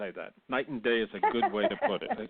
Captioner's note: laughs